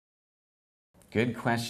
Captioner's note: silence